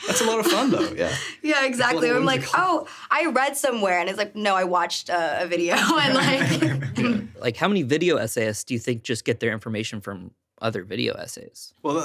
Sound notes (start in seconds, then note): 5.8 laughing